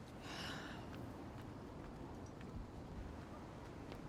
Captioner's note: Fern sighs